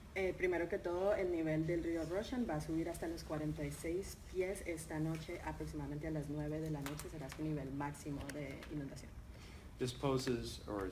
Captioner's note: speaking in Spanish